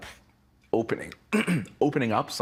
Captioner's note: clearing throat